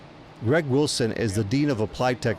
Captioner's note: men talking in background